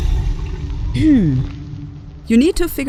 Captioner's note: clear throat